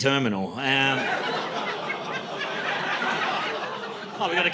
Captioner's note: laughter